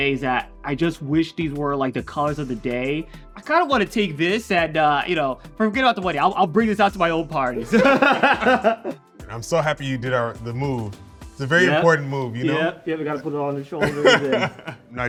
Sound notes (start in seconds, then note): 7.6 all laughing